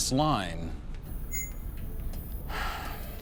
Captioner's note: sighs